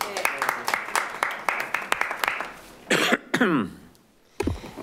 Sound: audience applauding

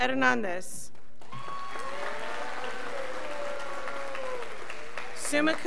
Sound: scholars applauding

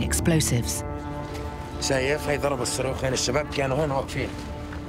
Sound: speaking Arabic

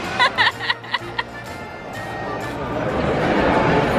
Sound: laughing

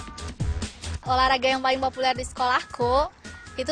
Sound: non-english speech

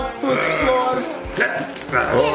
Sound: Mummy growling

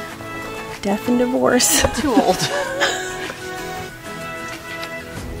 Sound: both laughing

